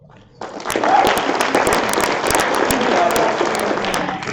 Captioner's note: applause